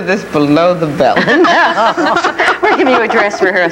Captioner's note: panelists laughing